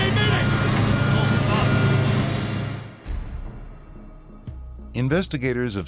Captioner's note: airplane engine roaring; chattering